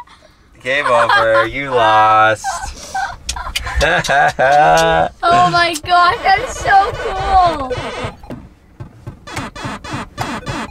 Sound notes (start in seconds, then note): 2.5 laughing; 7.3 beeping